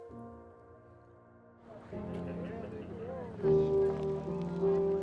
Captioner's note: students chattering